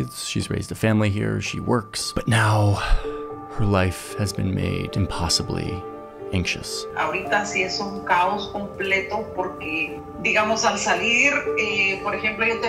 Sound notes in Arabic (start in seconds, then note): 7.2 تتحدث بلغة أجنبية